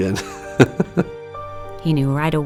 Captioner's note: laughs